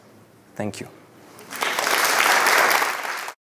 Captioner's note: applause